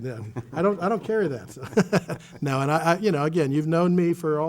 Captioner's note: chuckles